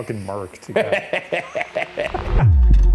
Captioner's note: laughing; gentle suspenseful music